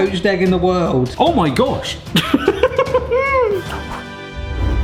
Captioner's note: laughs